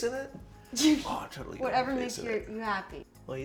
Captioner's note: laughs